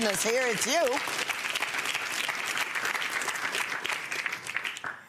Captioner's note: audience applauding